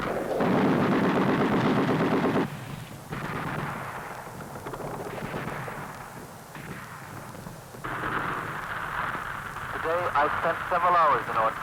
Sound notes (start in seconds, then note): 4.8 rapid gunfire; 7.8 gun shots